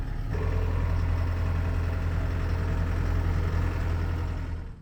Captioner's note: truck engine whirring